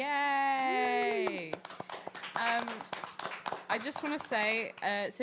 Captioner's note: audience applauding